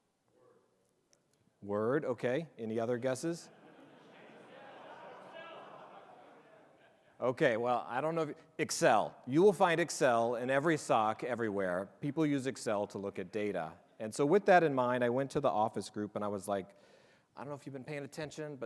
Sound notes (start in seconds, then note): 3.9 audience chattering